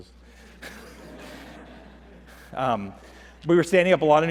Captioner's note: laughter